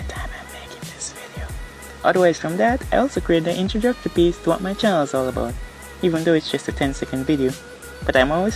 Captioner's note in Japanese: ささやき